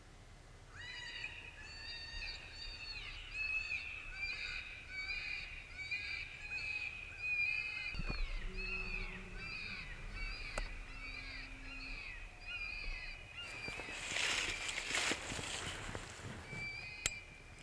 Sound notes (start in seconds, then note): 8.0 growling